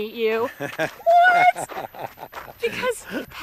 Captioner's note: laughs